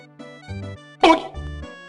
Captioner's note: doot